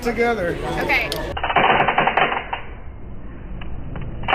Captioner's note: slow motion cracks